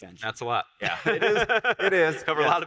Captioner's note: laughs